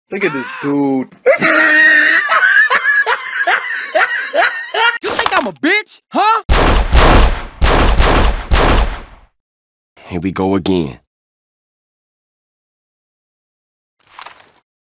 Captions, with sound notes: Look at this dude... *Laughs hysterically at Busta CJ* You think I'm a bitch, huh!? Here we go again.